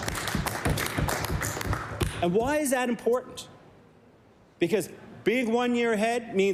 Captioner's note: applause